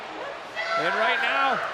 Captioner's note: Rhea yelling